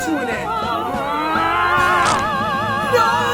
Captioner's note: neck snaps